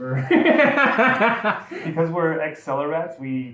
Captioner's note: both laughing